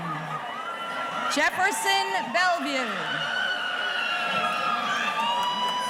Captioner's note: audience cheering